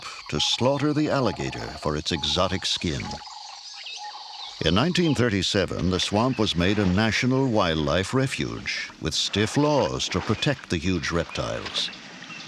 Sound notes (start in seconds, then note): none